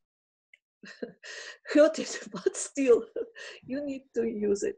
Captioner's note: laughing